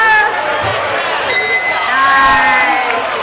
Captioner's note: dinging